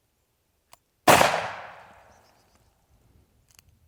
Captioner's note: gun shooting